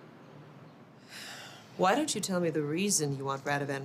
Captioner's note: Ava sighs